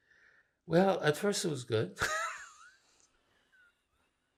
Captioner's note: laughing